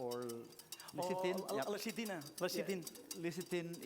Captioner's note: non-english